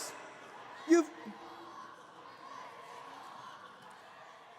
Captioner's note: angry chanting